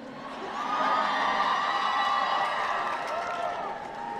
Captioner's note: applause